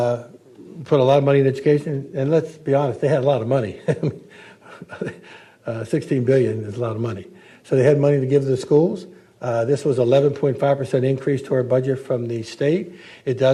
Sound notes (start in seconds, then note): 3.7 chuckles